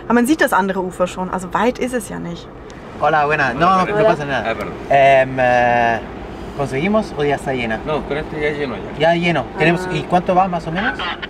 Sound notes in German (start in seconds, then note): 2.8 auf Spanisch